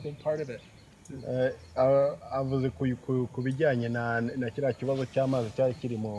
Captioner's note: man Speaking Kinyarwanda